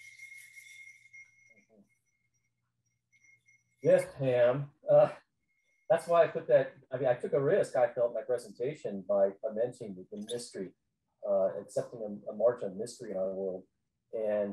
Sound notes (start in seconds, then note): 4.9 chuckles